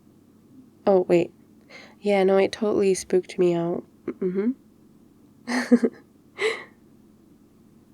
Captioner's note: laughs